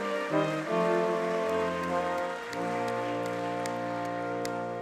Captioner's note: audience clapping